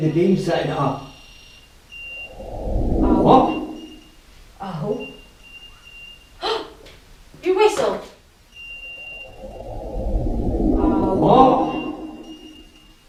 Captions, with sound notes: May be the beams setting it off? (Beeping stops suddenley!) Oh? What? Oh? (Whistle) Ohh, did you whistle? REPLAY SLOW MOTION Oh What